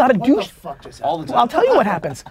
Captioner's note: pat